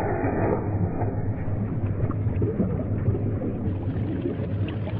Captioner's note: water vibrates and bubbles